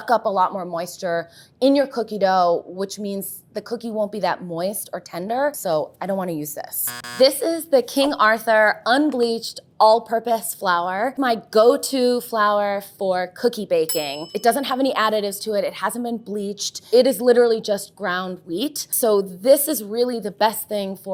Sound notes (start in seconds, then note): 6.8 buzzer sounds